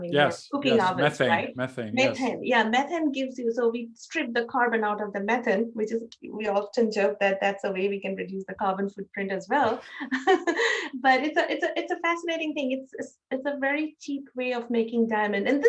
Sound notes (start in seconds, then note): 9.6 laughs